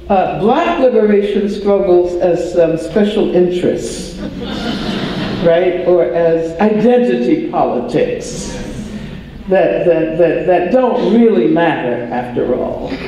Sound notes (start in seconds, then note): 4.2 audience laughter; 7.2 audience sigh in agreement